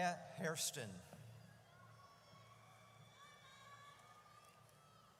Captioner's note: audience cheers